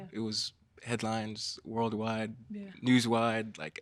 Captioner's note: none